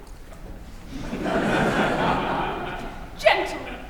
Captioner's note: laughter